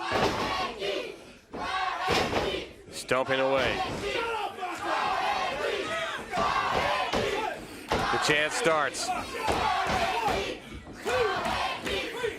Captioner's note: crowd cheering